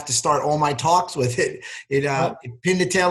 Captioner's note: chuckles